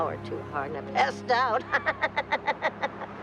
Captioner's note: laughing